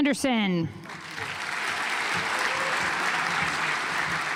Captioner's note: audience applauds